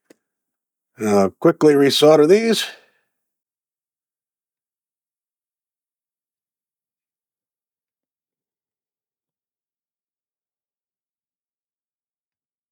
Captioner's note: silence